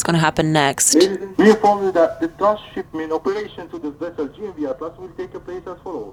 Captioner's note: announcer chattering